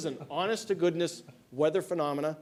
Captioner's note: laughter